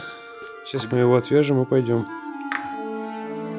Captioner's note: sarcasm